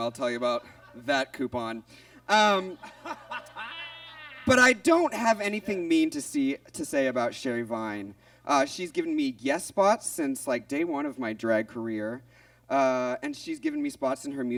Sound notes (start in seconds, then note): 2.3 Monet laughs